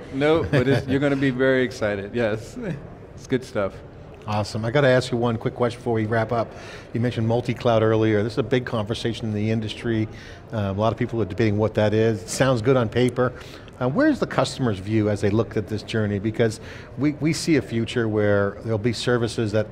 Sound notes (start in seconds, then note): 0.3 laughing; 2.4 chuckles